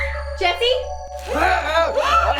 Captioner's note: Jessie screams